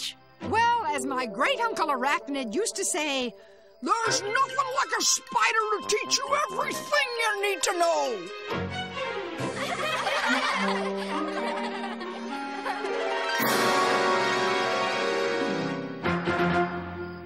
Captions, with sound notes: WELL, AS MY GREAT UNCLE ARACHNID USED TO SAY, "THERE'S NOTHING LIKE A SPIDER TO TEACH YOU EVERYTHING YOU NEED TO KNOW"! [ LAUGHTER ]